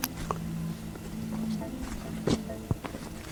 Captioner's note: rustles